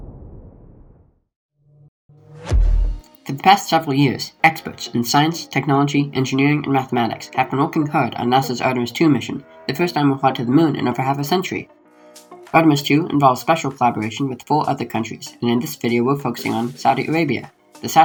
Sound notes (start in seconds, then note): 1.3 up-beat music fades in; 2.2 whoosh